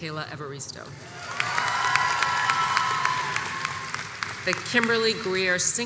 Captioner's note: audience applauds